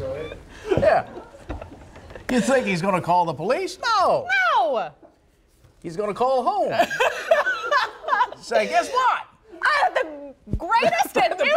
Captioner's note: laughter